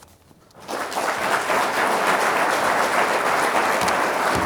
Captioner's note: everyone clapping